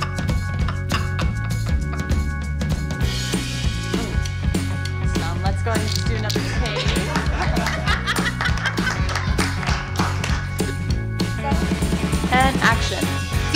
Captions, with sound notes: Hmmph Let's go ahead and do another take (Laughter) And action